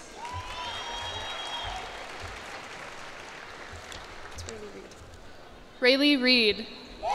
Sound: cheers and applause

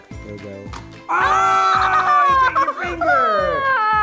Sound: exclaiming

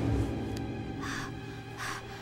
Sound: panting

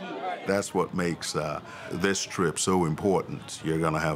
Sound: indistinct chatter

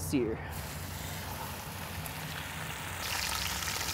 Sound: sizzling

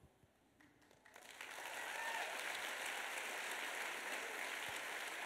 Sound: applause

